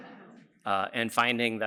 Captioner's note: laughter